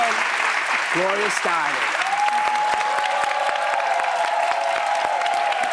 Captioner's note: applause